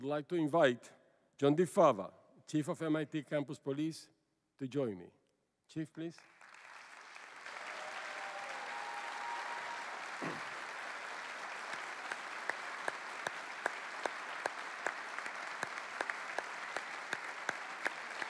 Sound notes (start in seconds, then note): 6.3 cheering and applause